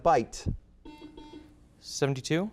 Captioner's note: buzzer beats